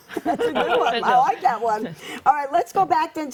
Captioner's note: laughs